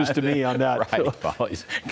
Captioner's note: laughter